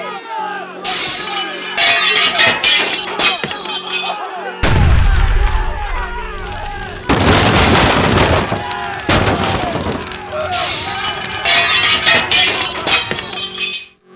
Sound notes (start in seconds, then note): 0.0 angry crowd noises; 0.9 breaking glass; 1.8 clanking metal; 4.6 loud boom; 6.2 fire crackling; 7.2 wood crunching